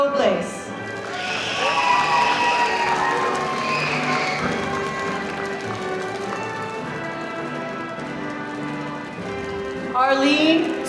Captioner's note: applause